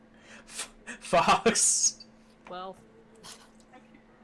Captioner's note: laughing